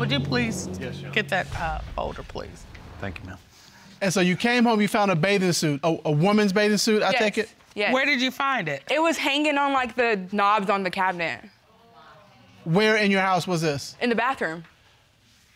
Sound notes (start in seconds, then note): none